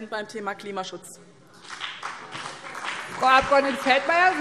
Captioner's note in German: Beifall BÜNDNIS 90/DIE GRÜNEN